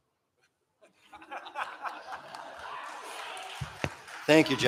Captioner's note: laughter